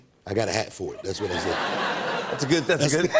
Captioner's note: laughter